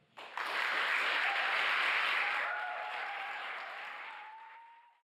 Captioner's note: applause